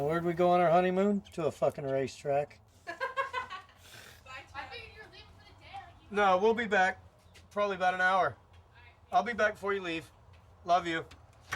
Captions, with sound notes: And where'd we go on our honeymoon? To a fucking racetrack. (woman laughs) - I figured you were leaving for the day. - No, we'll be back probably about an hour. I'll be back before you leave. Love you.